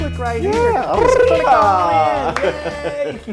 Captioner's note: laugh